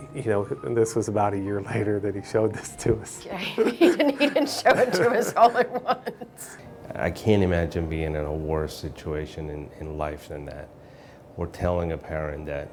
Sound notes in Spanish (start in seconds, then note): 3.4 Risas